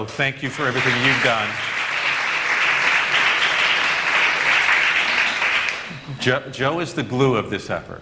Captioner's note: applause